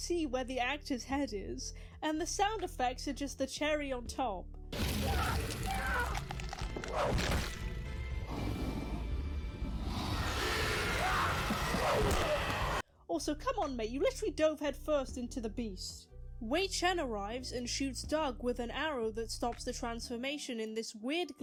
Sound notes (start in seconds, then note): 4.7 various epic fight noises